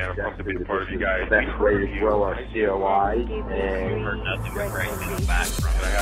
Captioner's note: chattering